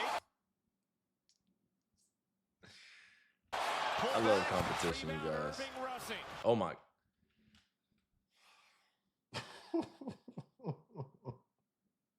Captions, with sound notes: I love the competition we've got. Oh my. (Laughing)